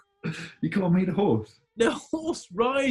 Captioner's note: laughs